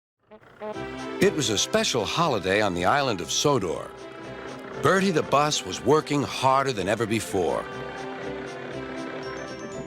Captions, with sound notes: [Bertie honks his horn] It was a special holiday on the Island of Sodor. [Driving noises] Bertie the bus was working harder than ever before.